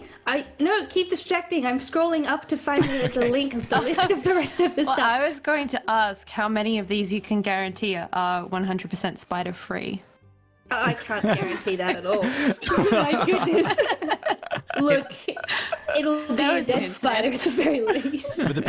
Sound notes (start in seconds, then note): 12.6 all spider-nervous giggles